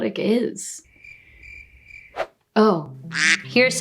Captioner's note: crickets chirping